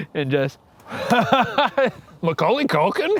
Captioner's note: laughs